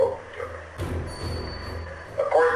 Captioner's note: recording squeals